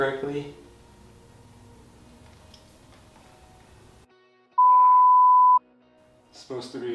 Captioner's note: beep